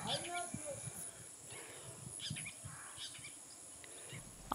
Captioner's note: birds Chipring